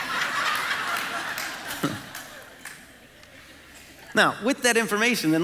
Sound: congregation laughing

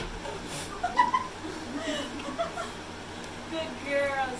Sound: laughing

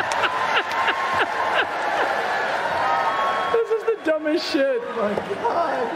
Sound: laughter

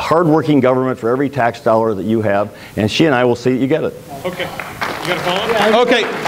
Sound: applause

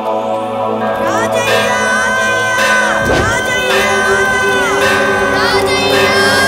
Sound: bell Ring

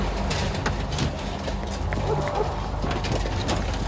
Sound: ominous music; door opens

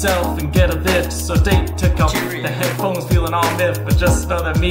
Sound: British accent

